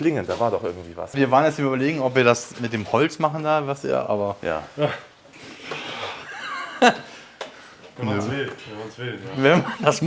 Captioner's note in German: gelächter